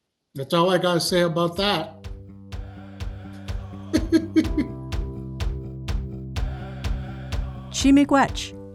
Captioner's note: laughs